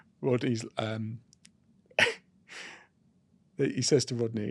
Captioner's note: laughs